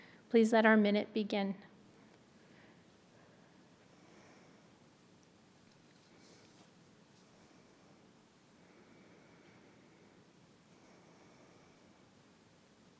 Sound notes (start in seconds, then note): 1.6 minute of silence